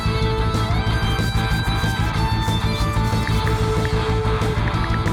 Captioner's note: rock music; brush scraping; ticking